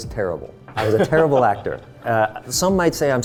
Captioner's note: laughing